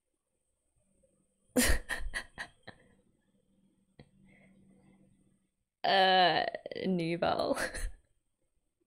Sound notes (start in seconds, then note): 1.8 laughs